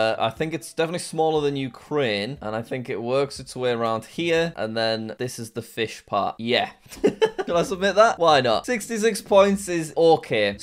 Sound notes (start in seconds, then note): 7.0 laughs